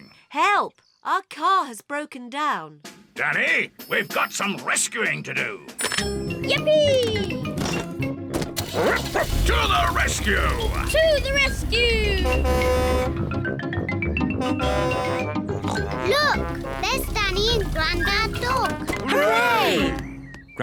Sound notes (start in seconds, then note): 8.6 barks; 12.4 horn blares; 15.4 snorts